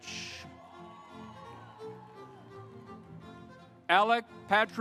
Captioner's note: audience applauds